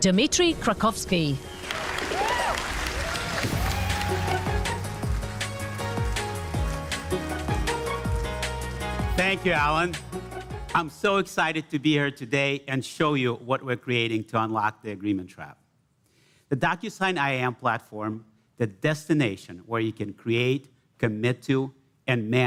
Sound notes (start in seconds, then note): 1.4 cheers and applause; 8.0 applause